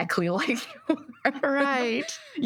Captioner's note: laughter